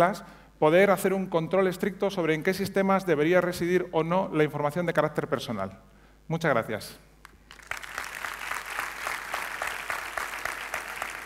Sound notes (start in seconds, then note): 7.2 applause